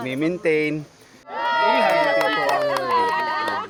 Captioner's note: cheers